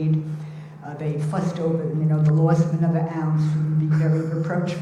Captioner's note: murmurs